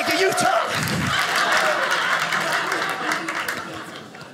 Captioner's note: audience laughing